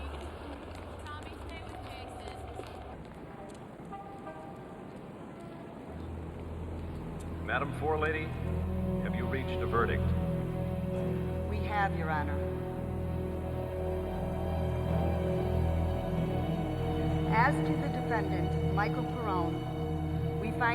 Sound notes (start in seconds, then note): 3.4 horns honking; 3.4 vehicles humming; 6.6 ominous music; 14.3 suspenseful music